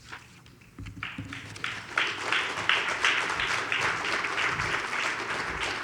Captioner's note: audience applauds